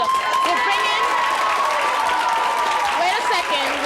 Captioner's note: audience applauds